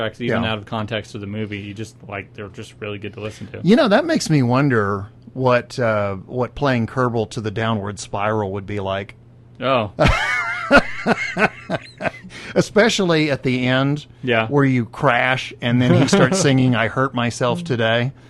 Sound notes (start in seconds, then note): 9.5 laughs; 15.9 laughs very hard